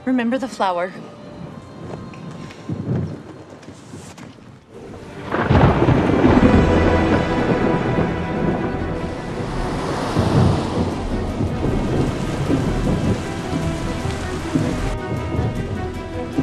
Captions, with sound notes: Remember the flower. (thunder rumbles) (car engine accelerating) (tense music)